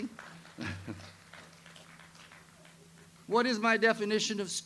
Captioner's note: audience applauds